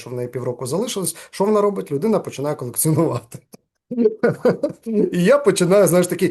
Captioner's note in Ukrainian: сміється